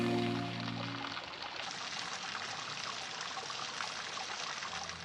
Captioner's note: water spraying